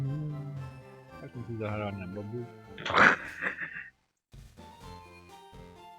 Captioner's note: chuckles